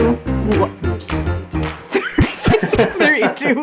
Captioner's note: laughing